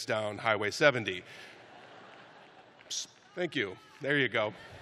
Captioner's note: laughter